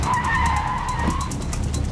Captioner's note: tires squeal